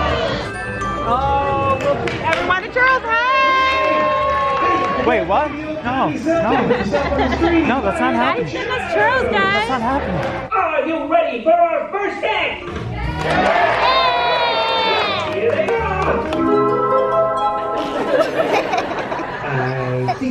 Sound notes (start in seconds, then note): 6.9 laughs; 13.0 audience cheers; 15.9 mysterious music; 17.7 audience laughs